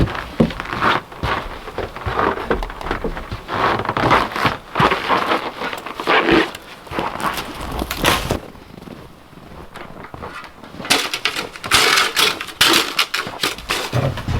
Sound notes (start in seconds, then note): 2.5 snow crunching; 10.8 shovel scraping